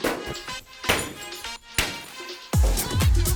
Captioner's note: items shatter